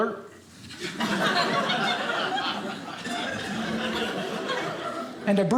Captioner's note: audience laughing